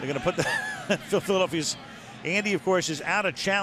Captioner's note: chuckles